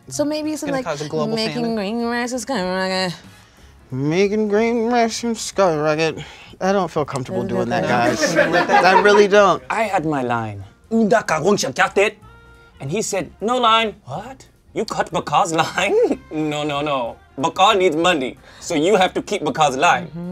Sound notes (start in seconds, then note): 11.0 Ba'ka speaks Na'vi